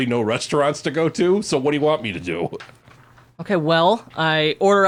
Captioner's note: laughs